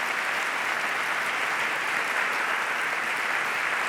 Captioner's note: applause